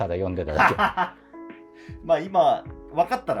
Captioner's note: laughing